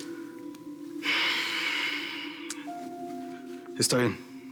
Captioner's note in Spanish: exhala